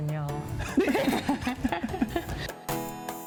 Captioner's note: both laugh